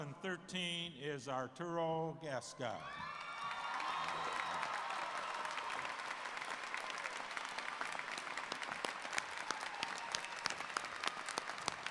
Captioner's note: cheers and Applause